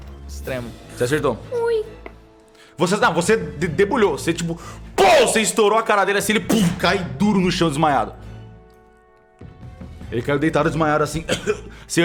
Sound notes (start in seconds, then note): 6.5 pow